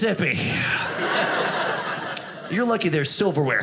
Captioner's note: audience laughing